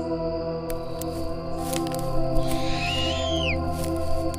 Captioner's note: screeching, branches snapping